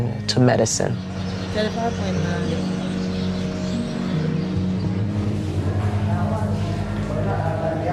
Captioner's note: soft music; people chattering